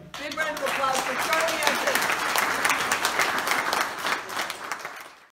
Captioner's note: crowd clapping